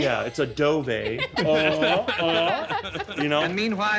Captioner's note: laughing